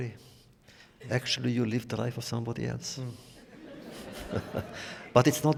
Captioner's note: laughter